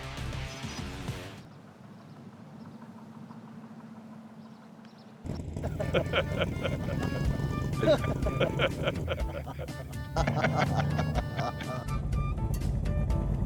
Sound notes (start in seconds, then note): 1.0 engine sputters; 5.6 laughter